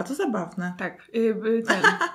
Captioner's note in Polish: śmiech